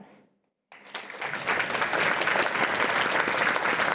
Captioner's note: applause